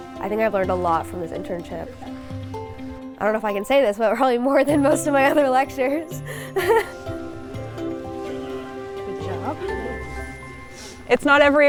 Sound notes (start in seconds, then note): 0.0 harness clacks; 6.2 giggles